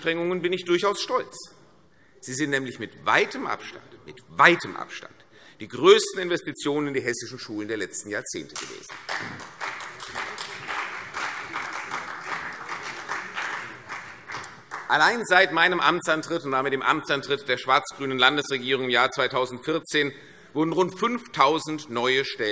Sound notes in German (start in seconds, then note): 8.6 Beifall CDU und BÜNDNIS 90/DIE GRÜNEN